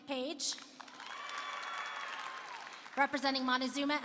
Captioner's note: applause and cheering